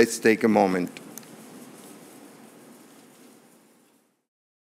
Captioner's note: pause